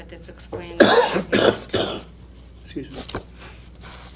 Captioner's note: coughing